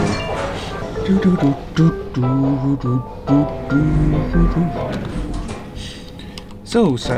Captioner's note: humming along the elevator music